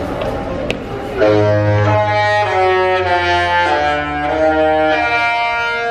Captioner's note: ship horn plays Disney tune